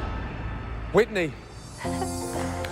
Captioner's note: laughs